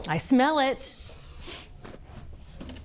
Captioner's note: sniffs